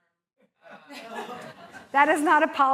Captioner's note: laughter